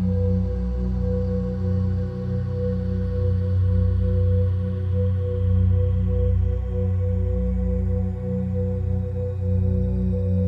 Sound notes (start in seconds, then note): none